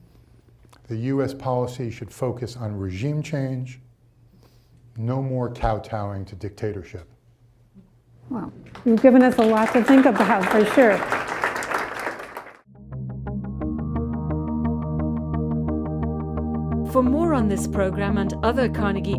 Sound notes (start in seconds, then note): 11.5 audience applauding; 12.8 upbeat music